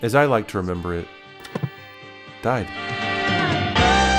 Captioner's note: turns off TV